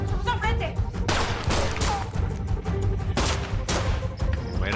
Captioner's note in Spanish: Disparos